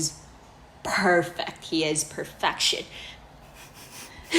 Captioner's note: sniff